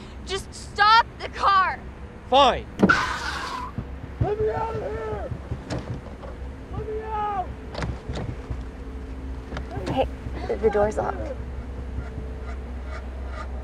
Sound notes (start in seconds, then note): 4.3 tires squeal; 11.6 suspenseful music